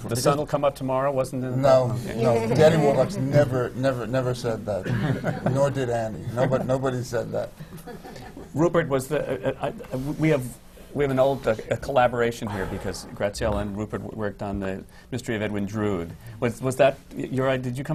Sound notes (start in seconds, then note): 4.8 laughter